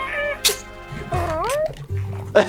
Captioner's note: stabbing